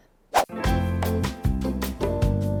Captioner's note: whoosh; upbeat music